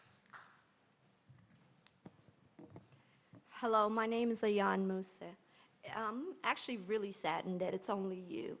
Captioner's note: applause